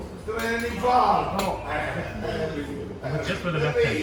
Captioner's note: speaking in Italian